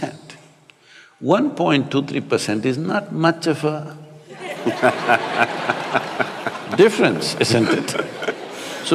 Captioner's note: laughter